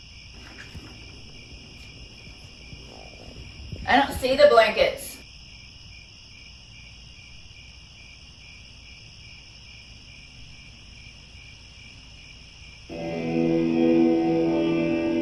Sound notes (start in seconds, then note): 5.2 crickets; 12.9 eerie country music